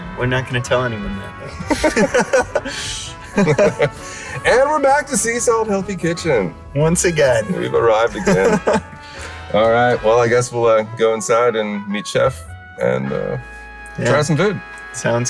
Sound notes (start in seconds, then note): 1.3 both laugh; 8.0 laughs